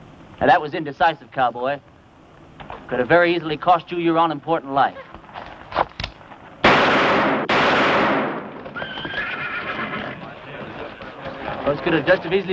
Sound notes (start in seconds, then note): 6.6 gunfire